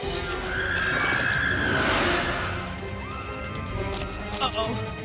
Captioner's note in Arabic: صراخ